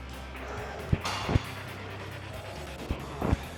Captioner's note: weights clunking; upbeat rock music continues